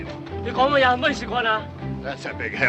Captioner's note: speaking in Chinese